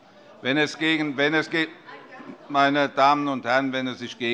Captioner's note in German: Zurufe DIE LINKE